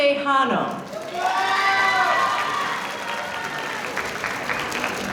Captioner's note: audience applauding